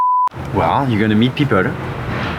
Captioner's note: beep